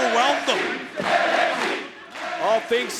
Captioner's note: crowd chants "NXT"